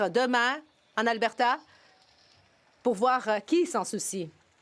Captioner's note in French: voix de l'interprète